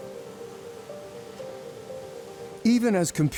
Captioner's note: fast-paced pensive music; waves crashing